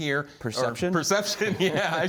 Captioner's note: laughter